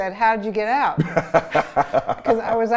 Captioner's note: laughs